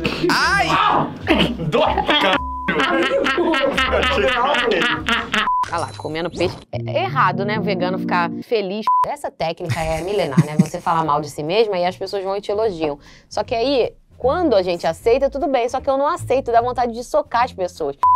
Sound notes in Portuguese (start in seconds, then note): 5.4 som de bipe; 8.8 som de bipe